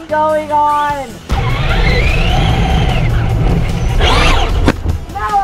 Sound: cars whirring

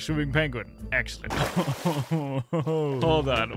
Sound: laughs

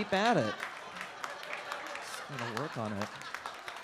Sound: audience laughs

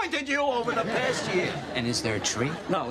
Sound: laughter

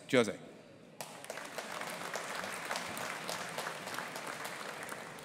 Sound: audience applauding

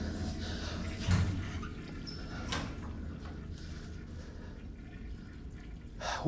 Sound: toilet flushing; door creaking

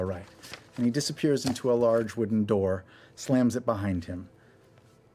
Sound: none

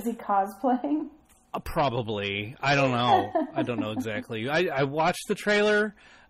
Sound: laughs

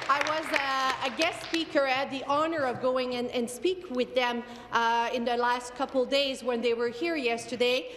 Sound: applause

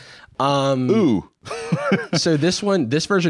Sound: laughs

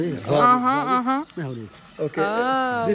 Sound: Arabic

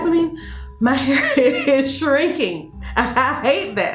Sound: laughs

